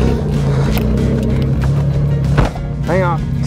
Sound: vehicle engine roars

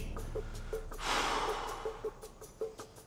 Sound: sighing

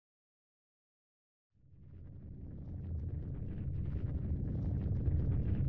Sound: low rumbling

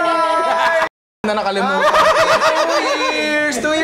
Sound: laughter

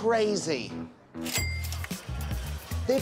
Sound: cash register opens

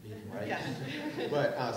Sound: laughing

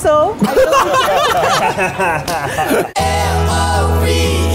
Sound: laughter

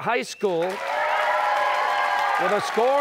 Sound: cheers and applause

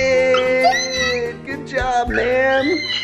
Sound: gasps

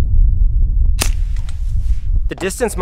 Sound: click

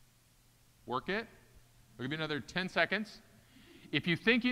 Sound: none

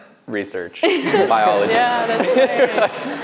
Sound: laughs

